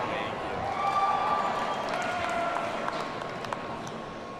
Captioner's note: audience cheering